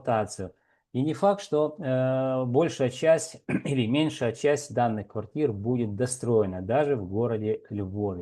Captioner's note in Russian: откашливается